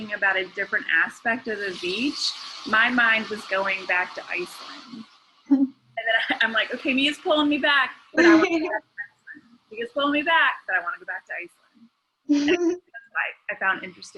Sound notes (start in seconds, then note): 5.5 chuckles; 8.2 laughing; 12.3 chuckles